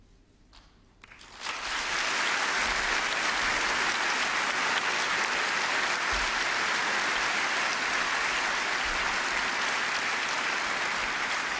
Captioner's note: applause